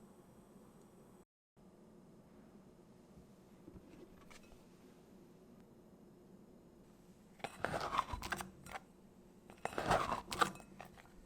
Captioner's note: folding